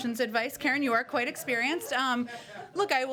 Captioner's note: laughter